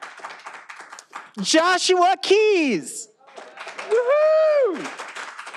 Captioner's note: all applauding